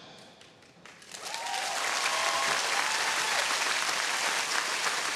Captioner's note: audience cheering